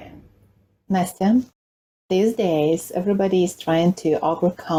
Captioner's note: speaking in Ukrainian